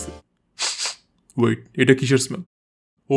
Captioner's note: sniff sniff